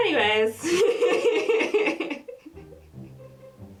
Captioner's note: laughter